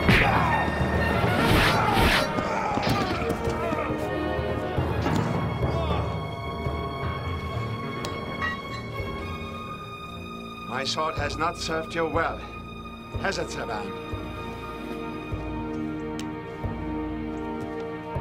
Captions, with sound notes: (punch) (slashing) - My sword has not served you well, has it, Savann?